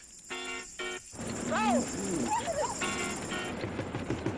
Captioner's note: giggling